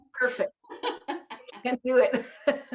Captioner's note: laughs